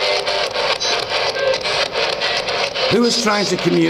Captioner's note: static buzzing; speech crackling